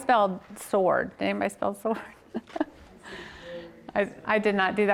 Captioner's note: laughs